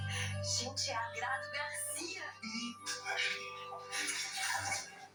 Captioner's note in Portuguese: risadas